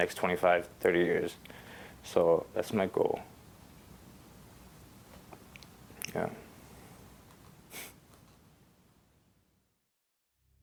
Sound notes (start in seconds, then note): 7.2 laughs